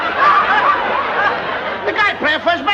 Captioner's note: laughter